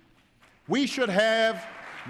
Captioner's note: applause